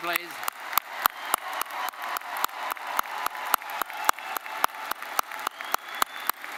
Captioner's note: attendees cheering and applauding